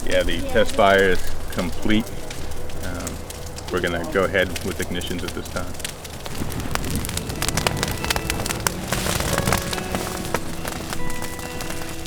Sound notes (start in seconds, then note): 0.1 radio traffic; 7.9 crackling fire and background music